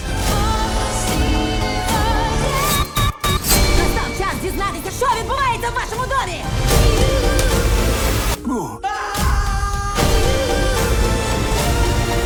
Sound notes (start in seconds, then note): 8.8 screams; 9.9 dramatic music continues